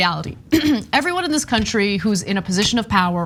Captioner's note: cough